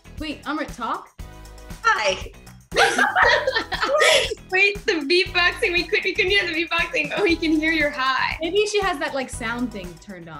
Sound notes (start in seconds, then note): 2.7 group laughing